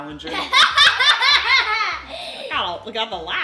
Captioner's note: laughing